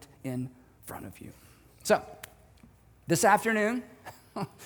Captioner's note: chuckles